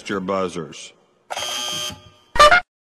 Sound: buzz

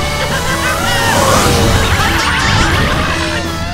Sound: yelling

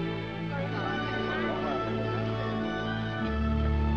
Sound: chattering

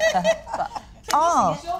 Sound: laughter

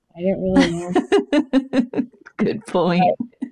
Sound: laughs

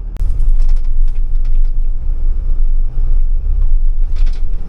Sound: truck rumbling

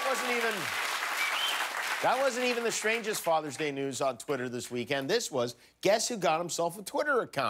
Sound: cheers and applause

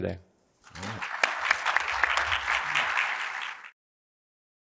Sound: clapping

